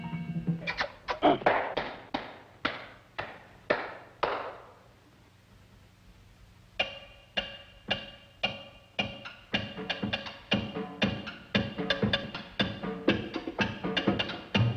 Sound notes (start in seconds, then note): 1.4 claps; 11.4 groovy music